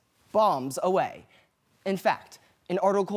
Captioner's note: silent